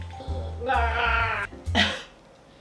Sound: gargling Lime Juice

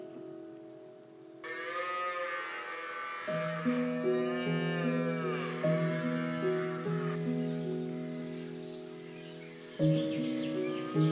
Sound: cows moo in the distance

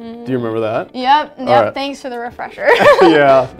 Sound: both laugh

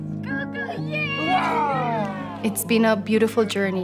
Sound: Pablo screams lightly

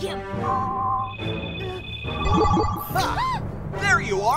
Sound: device whirs

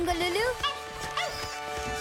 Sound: barking

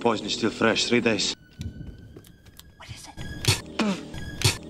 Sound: Buzz Lightyear spits several times

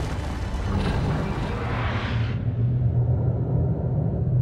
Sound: eruption

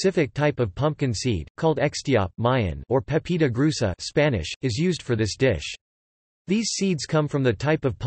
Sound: Spanish

